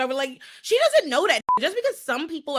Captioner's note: beep